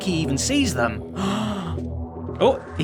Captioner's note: gasps